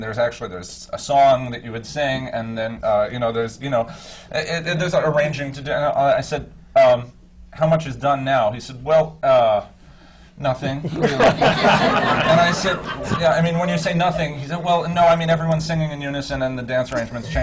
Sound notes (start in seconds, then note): 10.8 laughter